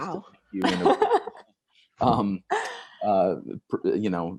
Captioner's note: laughs